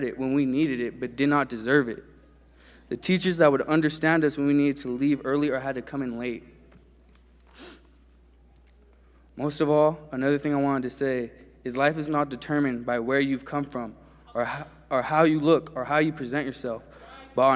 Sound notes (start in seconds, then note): none